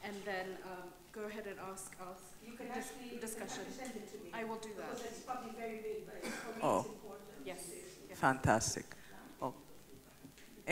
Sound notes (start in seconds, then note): 0.0 woman speaks off microphone; 2.6 woman speaks off microphone; 6.0 speaks off microphone